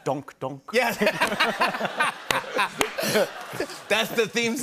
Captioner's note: laughter